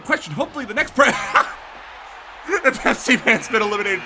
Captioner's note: laughs